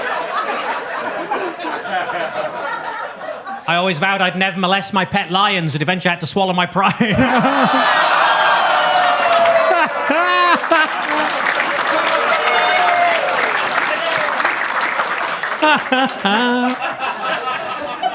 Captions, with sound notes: I always vowed I'd never molest my pet lions, but eventually I had to swallow my pride. (audience laughs) (audience claps)